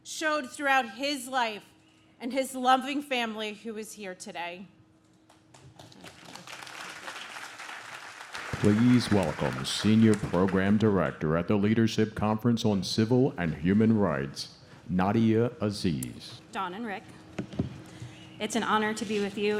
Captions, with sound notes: showed throughout his life, and his loving family who is here today. (audience claps) - Please welcome Senior Program Director at the Leadership Conference on Civil and Human Rights, Nadia Aziz. - Dawn and Rick, it's an honor to be with you